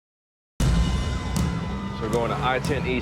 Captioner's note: sirens